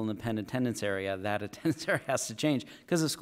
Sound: chuckle

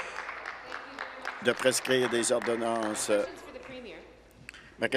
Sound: applause

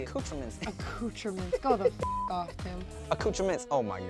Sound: beep

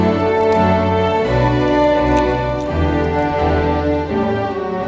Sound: crunching

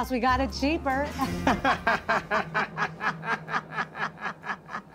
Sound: laughter

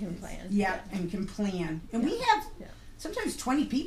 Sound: voiceover

